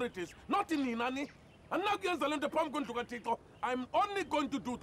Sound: speaking in Xhosa

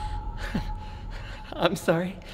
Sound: Ian chuckles

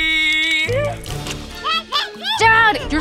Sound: baby cooing

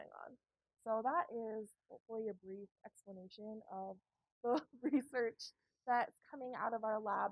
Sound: laugh

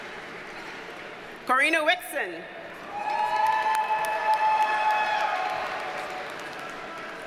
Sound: audience cheers and applauds

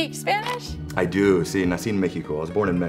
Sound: speaks Spanish

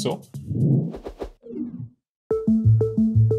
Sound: sound effect

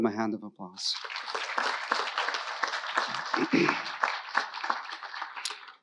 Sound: audience applauding

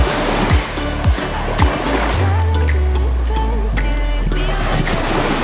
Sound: waves pushing onto shore

